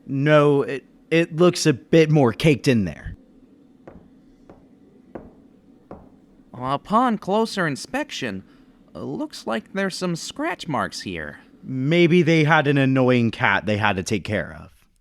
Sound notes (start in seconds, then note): 3.8 Footsteps as Joe gets closer